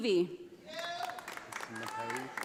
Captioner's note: audience applauding